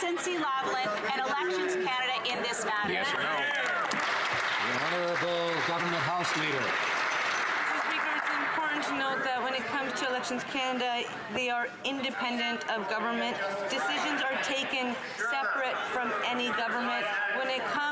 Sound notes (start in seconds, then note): 5.9 some Applause